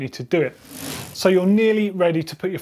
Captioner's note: bike wheel spinning